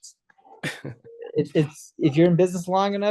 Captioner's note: host chuckles